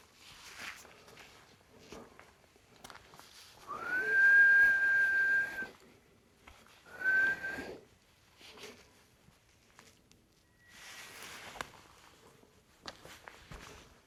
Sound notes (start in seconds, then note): 3.7 is whistling